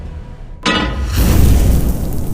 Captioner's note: clangs; sizzles